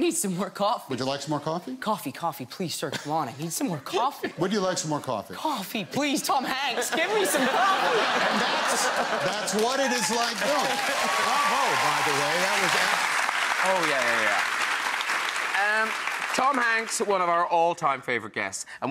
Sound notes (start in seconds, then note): 6.5 audience laughs; 11.1 audience applauds